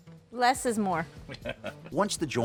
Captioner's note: laughs